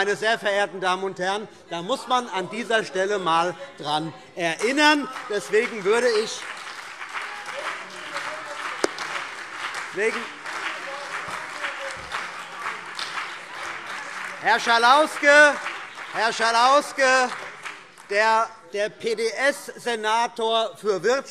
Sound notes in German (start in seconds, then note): 4.5 Beifall CDU und BÜNDNIS 90/DIE GRÜNEN - Zurufe SPD und DIE LINKE